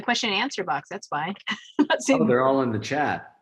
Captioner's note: chuckles